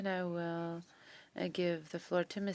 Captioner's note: speaking French